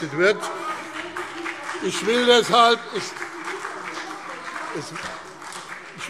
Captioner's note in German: Heiterkeit und Beifall BÜNDNIS 90/DIE GRÜNEN und CDU